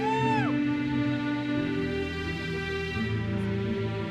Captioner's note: audience member cheers